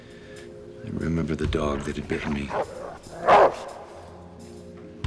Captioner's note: snarls and barks